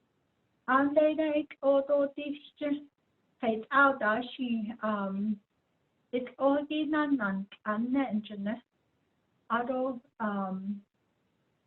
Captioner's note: speaking in Diné